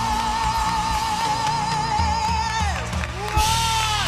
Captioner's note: cheers and applause